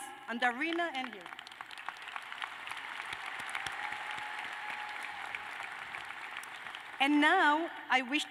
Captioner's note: applause